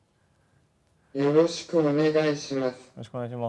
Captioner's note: via voice-generator